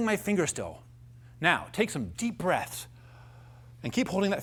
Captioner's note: inhales deeply